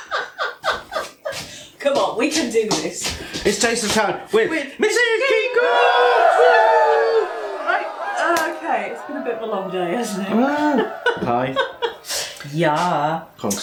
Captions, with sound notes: [ LAUGHTER ] "C'mon, we can do this" "It's taste test time with Mrs Keef Cooks!" [ CHEERING ] "Right, OK, it's been a long day hasn't it! "Pie...con Stilton"